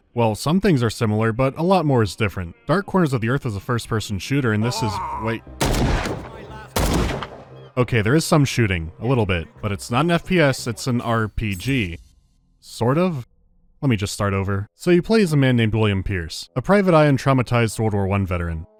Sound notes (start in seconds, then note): 5.6 bang, bang